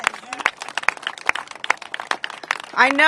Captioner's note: applause